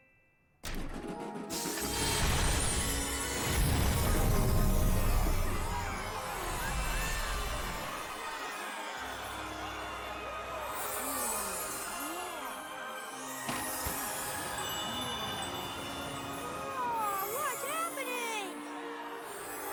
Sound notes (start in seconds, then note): 5.5 all gasping cheering